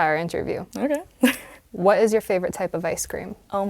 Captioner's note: laugh